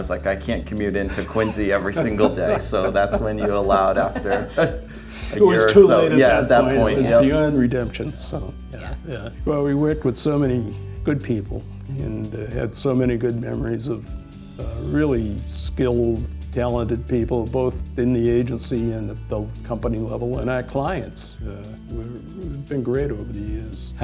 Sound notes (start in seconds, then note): 1.0 laughing